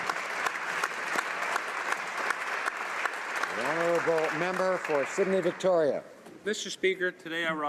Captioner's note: applause